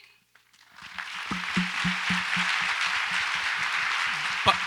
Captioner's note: audience applauds